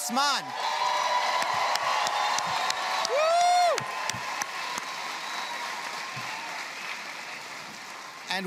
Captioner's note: audience cheers